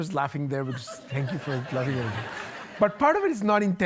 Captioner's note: audience laughing